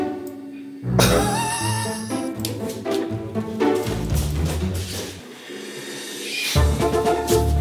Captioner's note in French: rire